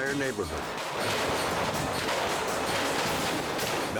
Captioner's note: fireworks exploding